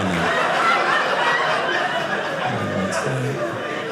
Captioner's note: audience laughing